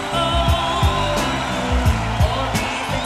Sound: audience cheers

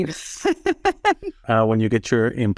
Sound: laugh

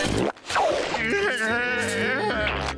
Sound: groaning

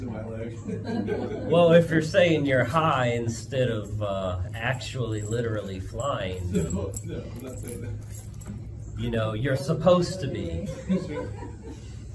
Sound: laughter; laughter

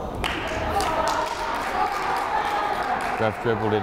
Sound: crowd applauding

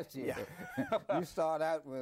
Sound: both laugh

